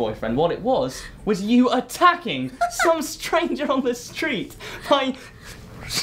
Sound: laughing

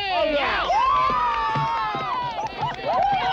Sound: cheering

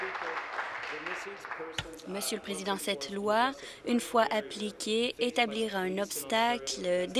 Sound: applause

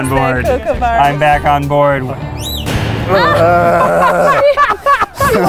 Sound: laughing; screaming

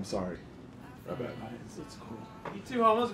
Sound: murmurs

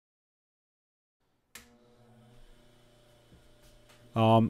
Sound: click

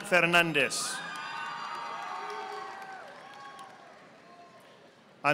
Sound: audience applauding

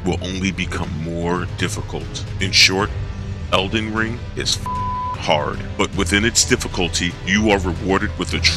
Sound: beep

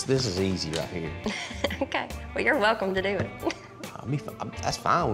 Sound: chuckles

